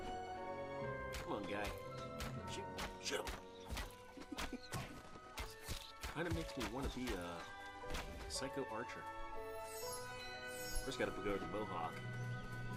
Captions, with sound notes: Come on guy. Shoot him! Shoot him! [laughing] Kind of makes me want to be a psycho archer. First though, I gotta grow the Mohawk.